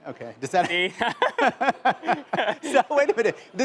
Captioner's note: laughter